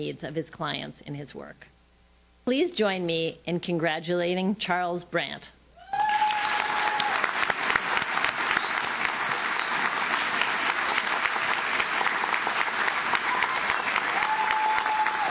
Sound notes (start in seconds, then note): 5.8 audience cheers; 6.0 audience claps